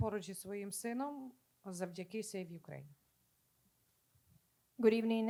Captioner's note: speaking Ukrainian